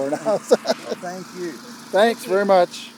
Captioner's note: laughing